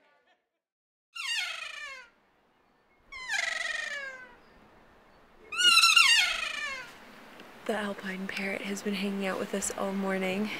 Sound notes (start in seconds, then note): 3.0 bird vocalizes loudly